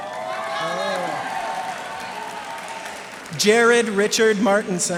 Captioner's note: cheers and applause